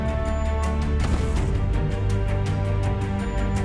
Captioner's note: bang